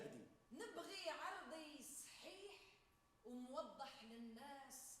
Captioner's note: woman speaks Arabic